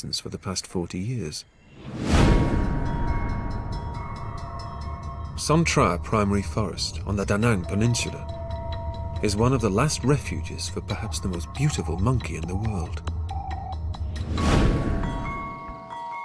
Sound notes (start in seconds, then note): 1.6 loud whoosh; 14.2 loud whoosh